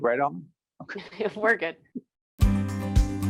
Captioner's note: laughing